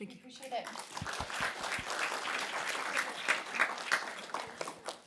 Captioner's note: applause